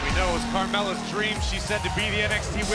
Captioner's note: crowd cheering